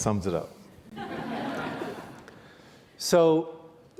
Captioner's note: audience laughs